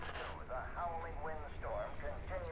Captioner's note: radio Voice